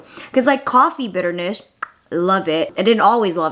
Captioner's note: clicks tongue